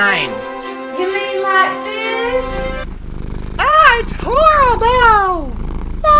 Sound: purring noise

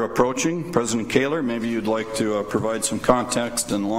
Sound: none

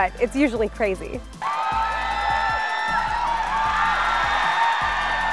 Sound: crowd cheering

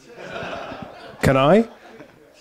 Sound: laugher

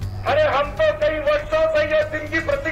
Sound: non-english speech

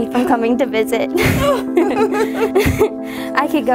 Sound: both laugh

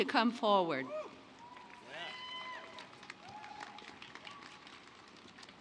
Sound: applause

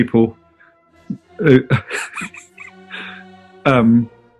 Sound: chuckling

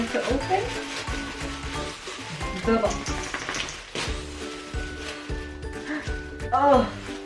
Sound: crunching

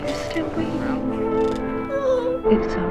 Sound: sad violin music; squeaks

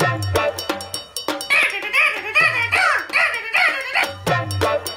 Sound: phone ringing

